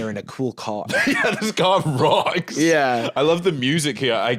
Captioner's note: laughing